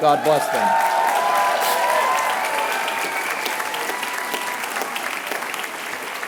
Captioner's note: applause